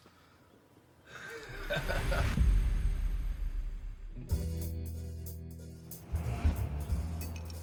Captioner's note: person laughs; upbeat music